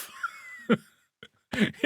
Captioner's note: laughs